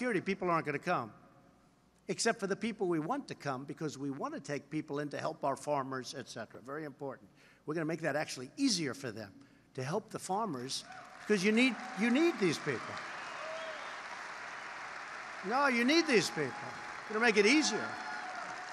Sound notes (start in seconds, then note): 10.4 applause